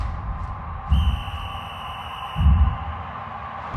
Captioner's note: whistle blows